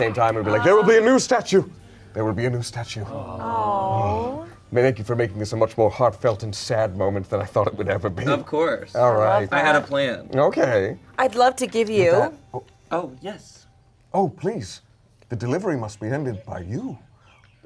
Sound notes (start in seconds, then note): none